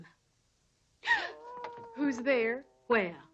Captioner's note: Priscilla gasps